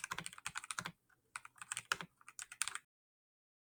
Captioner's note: keyboard clacking; keyboard clicking